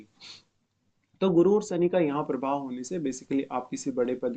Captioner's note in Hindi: नाक से की जाने वाली आवाज़